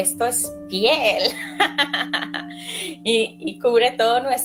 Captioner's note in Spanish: risas